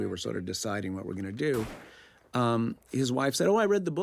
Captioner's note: gunfire; cocks gun